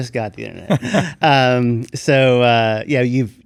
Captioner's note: laughs